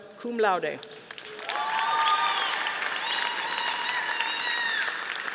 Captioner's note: audience applauding